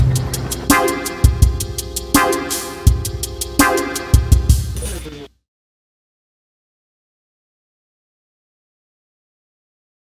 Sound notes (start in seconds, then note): 0.0 upbeat inquisitive music; 4.6 screen warbling